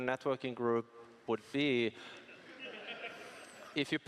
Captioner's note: laughing